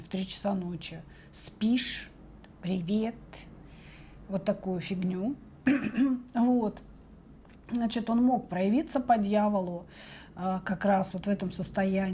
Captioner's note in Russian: откашливается